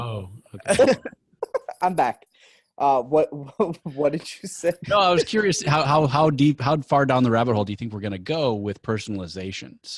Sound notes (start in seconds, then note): 0.5 giggles